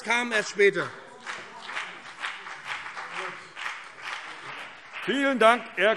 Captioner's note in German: Beifall BÜNDNIS 90/DIE GRÜNEN und CDU